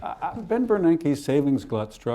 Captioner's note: laughter